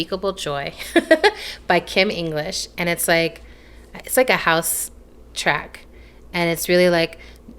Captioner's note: laughs